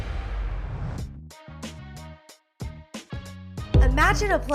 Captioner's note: whoosh